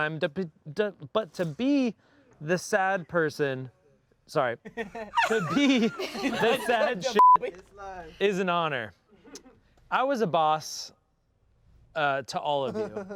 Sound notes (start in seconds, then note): 7.1 beep